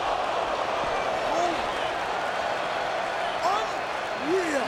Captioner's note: audience cheering and clapping